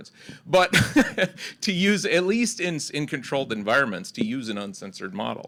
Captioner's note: laughs